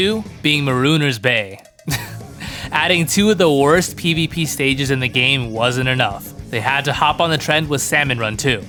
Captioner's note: laughs